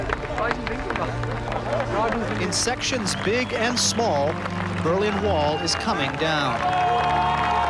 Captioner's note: clapping